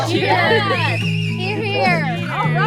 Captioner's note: crowd; crowd cheering